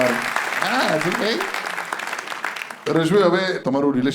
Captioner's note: crowd applauding